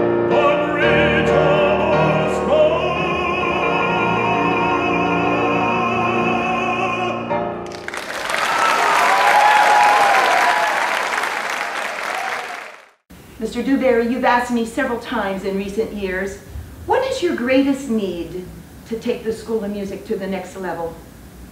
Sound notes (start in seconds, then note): 7.6 applause